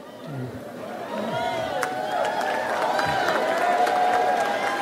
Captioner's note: audience applauds